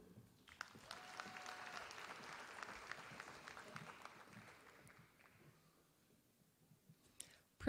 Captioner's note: applause